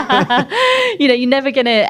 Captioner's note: laughs